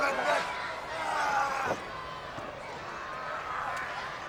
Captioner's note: crowd yelling